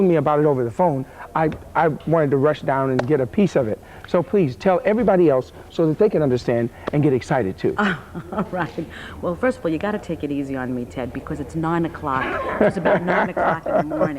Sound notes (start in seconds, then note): 7.8 laughing